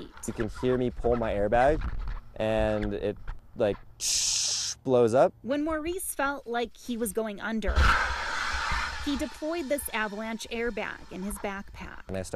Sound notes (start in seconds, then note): 4.0 hisses; 7.8 airbag hisses